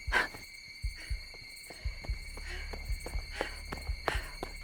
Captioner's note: Tina panting